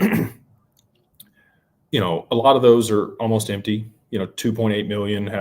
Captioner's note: clears throat